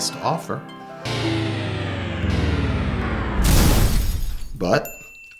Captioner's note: crashing vortex